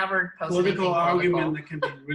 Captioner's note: laughs